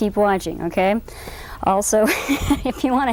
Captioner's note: laughter